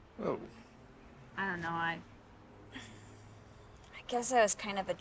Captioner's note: sighs